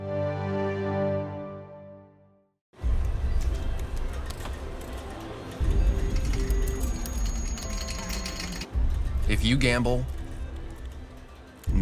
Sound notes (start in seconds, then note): 0.0 gentle music; 2.9 slot machines chime in background